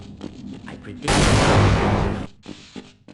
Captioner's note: kaboom!